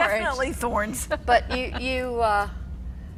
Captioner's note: laughs